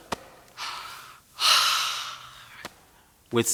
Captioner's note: sighs